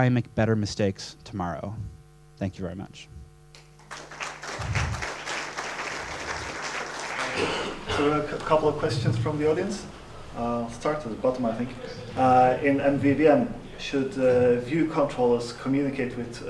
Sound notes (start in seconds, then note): 3.5 applause; 8.1 voiceover